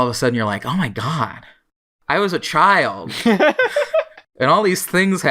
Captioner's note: laughs